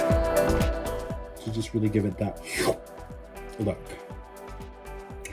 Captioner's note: sucking sound